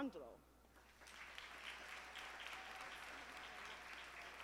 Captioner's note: audience applauding